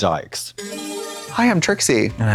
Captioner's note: bright chime